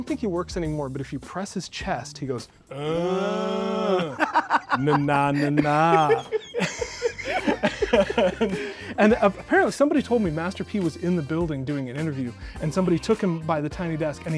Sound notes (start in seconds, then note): 6.5 laughing; 6.5 laughs